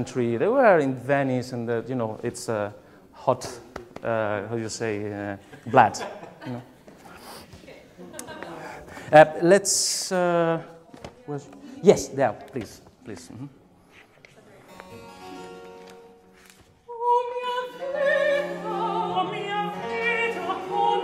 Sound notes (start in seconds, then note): 7.9 laughs